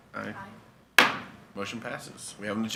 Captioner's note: gavel taps